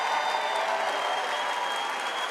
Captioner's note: cheering and applause